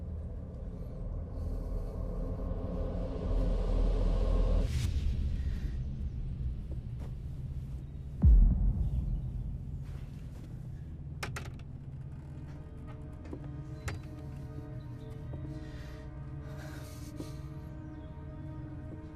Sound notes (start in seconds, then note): 0.1 tense music; 11.2 door opens